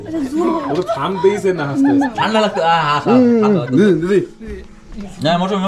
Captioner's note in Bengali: সশব্দ হাসি